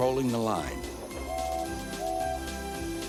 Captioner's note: toot toot